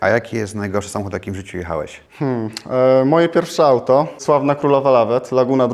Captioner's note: hm